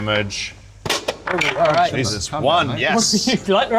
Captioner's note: crash